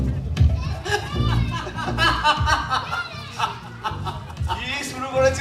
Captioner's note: Gourhari and Binoy laughing